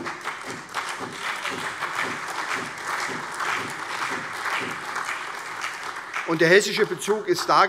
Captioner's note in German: Beifall SPD, CDU, BÜNDNIS 90/DIE GRÜNEN, Freie Demokraten und vereinzelt AfD